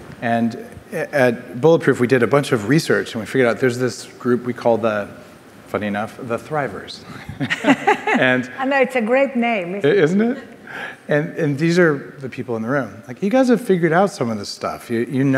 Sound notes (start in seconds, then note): 7.1 laughing